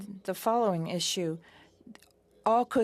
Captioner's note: speaking French